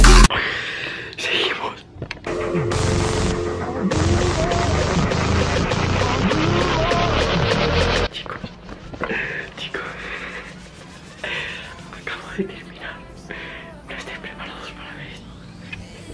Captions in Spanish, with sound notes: seguimos chicos (risas) acabo de terminar, no estáis preparados para ver esto